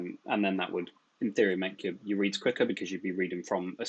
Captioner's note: murmurs